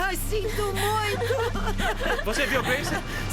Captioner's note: crying